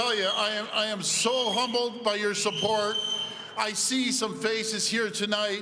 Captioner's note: cheering